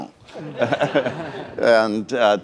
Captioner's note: laughter